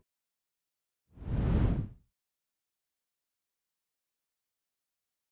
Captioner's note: screen whooshing